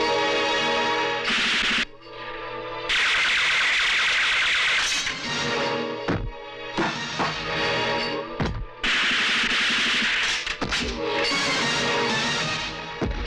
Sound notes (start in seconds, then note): 1.0 gun Firing